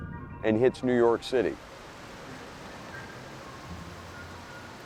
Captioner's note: rain pouring